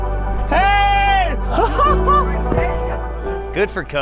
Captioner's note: laughs